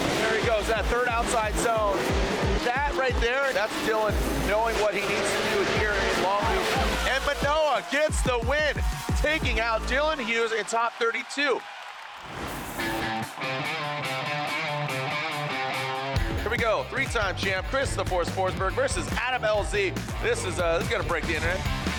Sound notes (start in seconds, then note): 6.3 everyone cheers; 8.2 audience claps; 12.2 graphic whooshes; 12.3 bold upbeat music plays